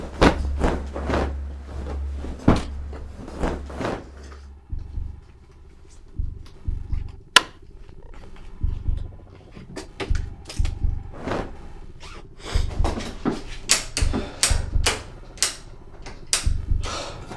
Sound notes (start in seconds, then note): 3.1 menacing music begins playing; 7.3 light switch snaps; 11.3 sniffle; 12.7 light switch snaps over and over; 16.8 deep sigh